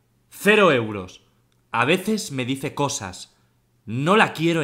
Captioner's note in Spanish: voz perturbadora